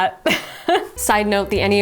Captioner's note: laughing